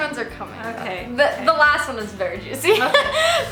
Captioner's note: laughs